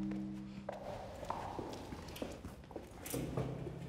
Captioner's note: gentle tribal music; footsteps